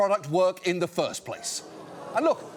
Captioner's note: audience groans